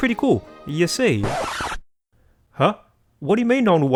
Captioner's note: record Scratch